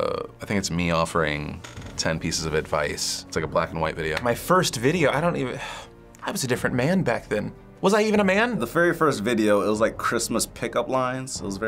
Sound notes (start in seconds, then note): 5.6 sighs